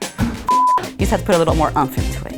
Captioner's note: beep